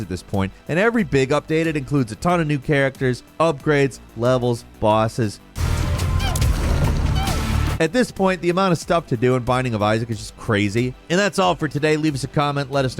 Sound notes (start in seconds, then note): 5.5 intense music; 5.6 character groaning